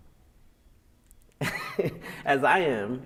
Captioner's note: laughs